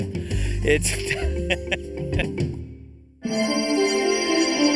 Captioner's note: Steven laughs